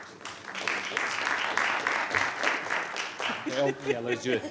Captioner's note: audience applauding